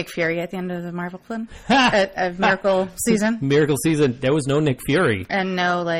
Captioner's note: DJ laughs